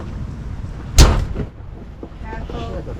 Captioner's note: bang